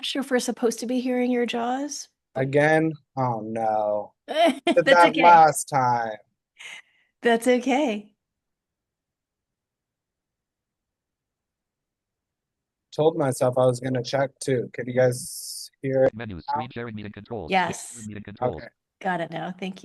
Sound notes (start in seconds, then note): 4.7 laughing